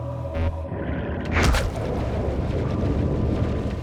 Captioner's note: thump